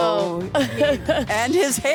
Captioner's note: laughs